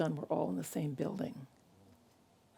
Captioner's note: none